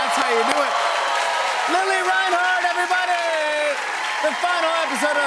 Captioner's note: cheers and applause